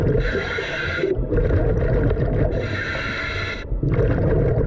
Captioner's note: breathing heavily